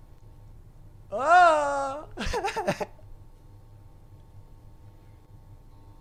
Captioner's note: laughs